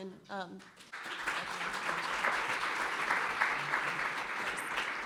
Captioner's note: applause